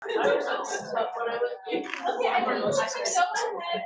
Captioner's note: ambient chatter